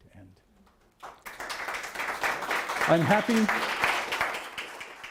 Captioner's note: applause